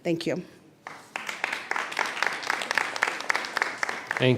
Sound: applause

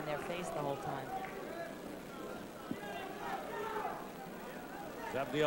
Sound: yelling from the audience

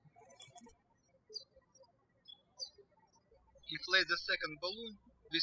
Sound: birds chirping

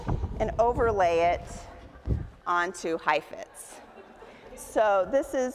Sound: audience laughs

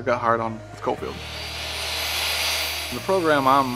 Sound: saw whirring

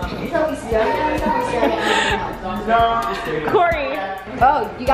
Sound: laughs

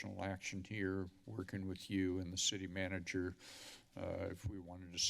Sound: inhales

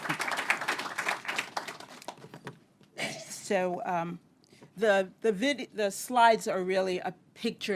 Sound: applause

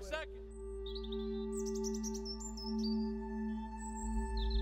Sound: birds chirping

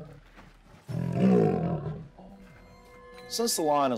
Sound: roaring

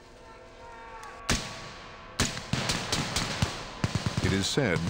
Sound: voiceover; gunfire; voiceover

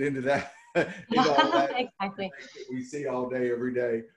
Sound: laughing

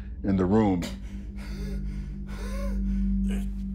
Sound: panting

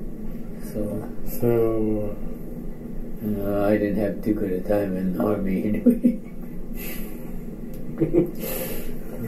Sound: chuckles

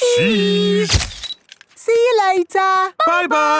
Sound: camera click

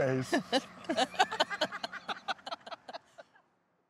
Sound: all laughing

